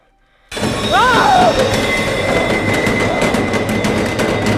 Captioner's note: heavy door banging